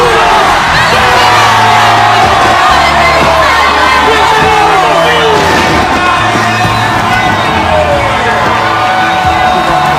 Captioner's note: Spanish